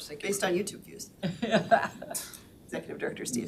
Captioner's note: all laughing